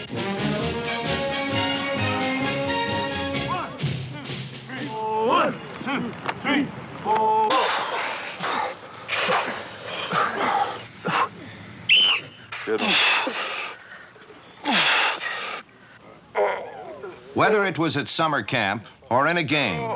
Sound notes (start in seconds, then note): 3.4 chanting; 11.8 whistle blows